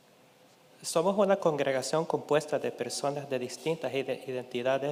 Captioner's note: speaking in Spanish